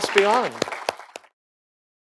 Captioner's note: applause